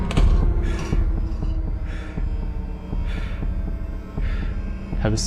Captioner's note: heavy breathing